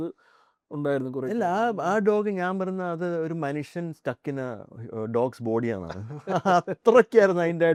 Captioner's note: laughs